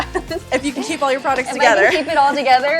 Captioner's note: laughs